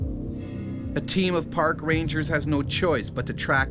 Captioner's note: voiceover